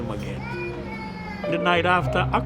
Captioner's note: child wails